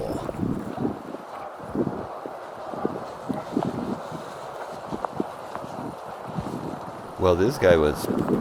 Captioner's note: trampling and Grunting Elk